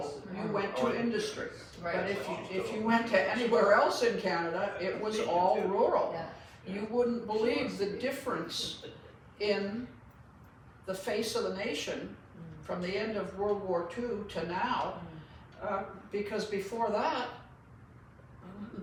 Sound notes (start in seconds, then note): 3.1 laughs